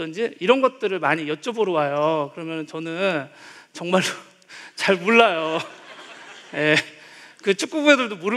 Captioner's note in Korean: 웃음